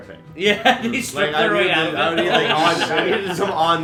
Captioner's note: laughter